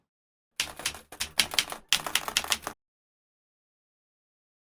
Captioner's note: keyboard keys clicking